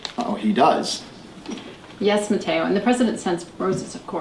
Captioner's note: none